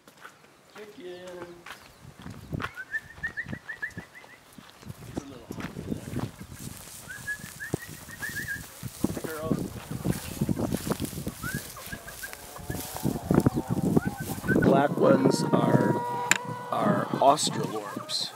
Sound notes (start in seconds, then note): 1.2 sound of footsteps and chickens